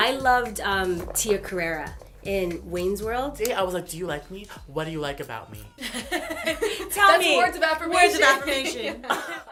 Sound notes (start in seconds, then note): 5.8 laughter